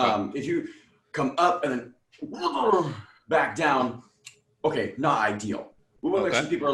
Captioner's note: burbles